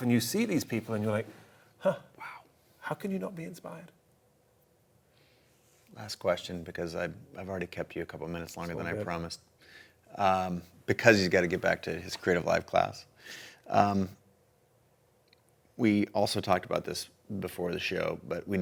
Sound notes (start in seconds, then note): none